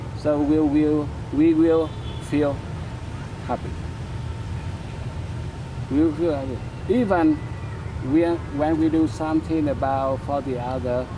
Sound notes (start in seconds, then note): none